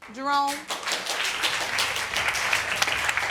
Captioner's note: audience applauding